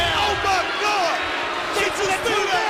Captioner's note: crowd boos